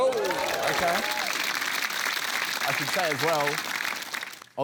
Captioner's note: cheering, applause